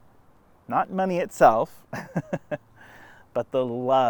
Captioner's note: laughs